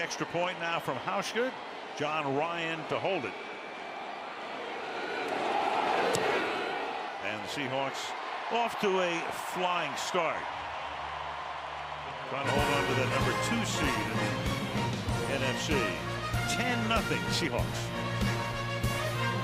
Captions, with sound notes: So the extra point now from Hauschka. John Ryan to hold it. And the Seahawks off to a flying start. [cheering] Trying to hold on to the number 2 seed in the NFC. [upbeat music] 10-0, Seahawks.